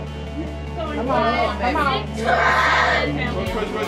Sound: yelling

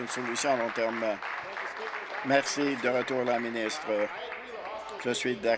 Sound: applause

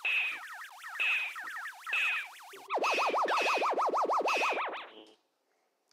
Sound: Space Invaders stereo sounds and radar effects

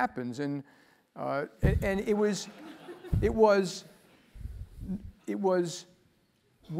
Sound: laugh

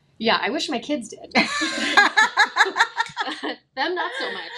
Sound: both laugh

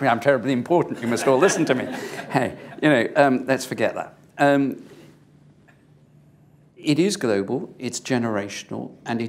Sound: laughter; laughter

